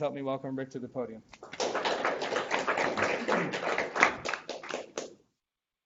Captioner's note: audience clapping